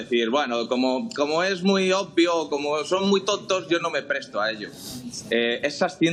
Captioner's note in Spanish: resoplido